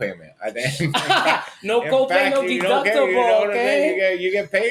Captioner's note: laughs